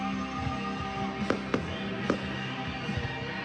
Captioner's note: firecrackers booming